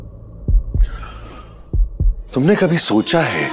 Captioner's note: Gasps